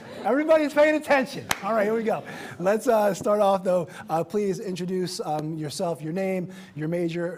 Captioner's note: laughter